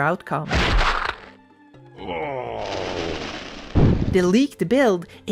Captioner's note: cracking noise